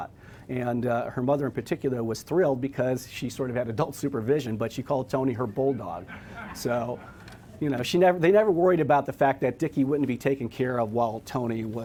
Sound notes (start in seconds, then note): 5.4 audience laughs